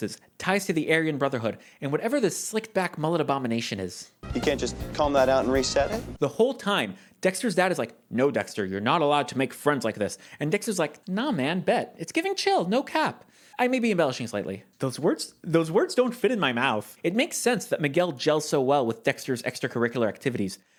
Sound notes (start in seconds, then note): 7.9 low voice